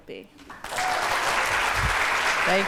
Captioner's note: applause